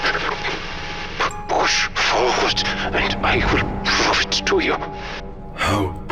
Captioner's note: trembles, it takes effort to speak